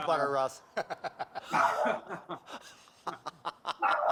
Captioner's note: laughter